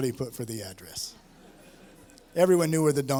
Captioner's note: laughter